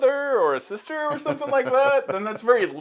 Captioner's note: chuckles